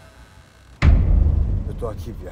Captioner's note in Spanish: estallido